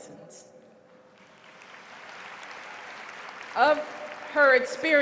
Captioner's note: applause